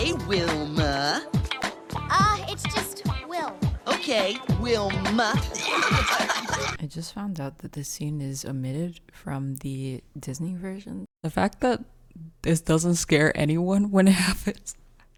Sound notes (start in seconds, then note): 5.5 demonic laughter